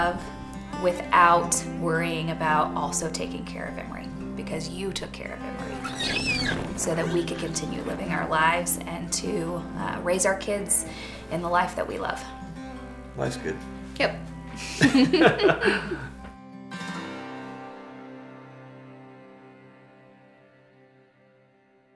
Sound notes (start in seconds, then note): 6.8 giggles; 14.6 both laugh